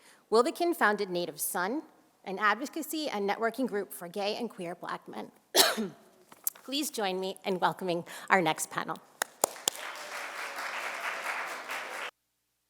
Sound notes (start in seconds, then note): 5.5 coughs; 9.2 audience applauds